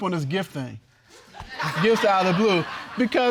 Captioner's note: spectators laughs